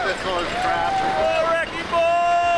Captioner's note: people cheering